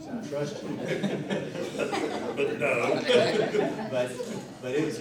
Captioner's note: laughter